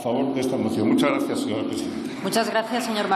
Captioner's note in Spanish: Aplausos